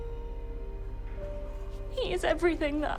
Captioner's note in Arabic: none